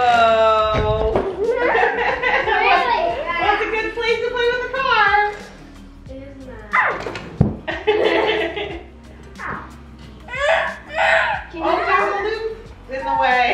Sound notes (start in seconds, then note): 1.4 laughing; 7.6 family laughing; 9.4 grunting